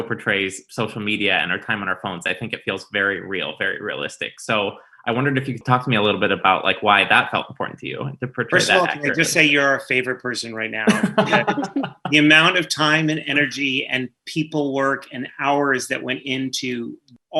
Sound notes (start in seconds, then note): 10.5 laugh